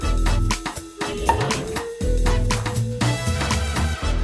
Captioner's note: cork pops